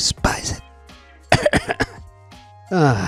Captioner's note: whispering; coughs